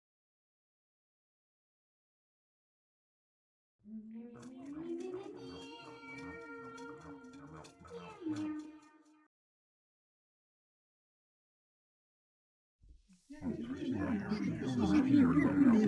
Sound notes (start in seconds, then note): 4.1 conversation Noises